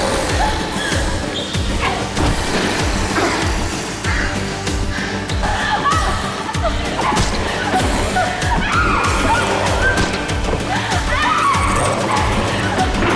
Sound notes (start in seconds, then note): 0.1 dramatic music; 0.1 zombies growl; 9.6 women screaming